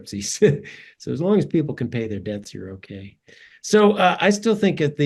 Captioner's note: laugh